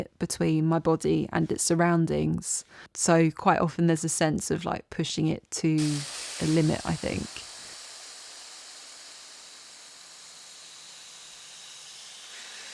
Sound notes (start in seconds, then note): 7.5 air escaping balloon